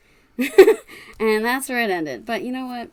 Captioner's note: laughs